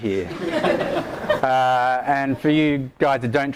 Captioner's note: audience laughter